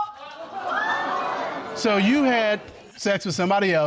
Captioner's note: audience exclaiming